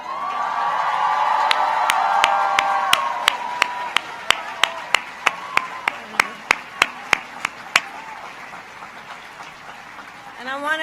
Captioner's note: applause